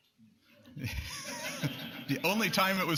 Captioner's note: laughter